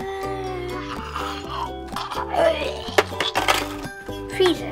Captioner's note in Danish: Spise lyde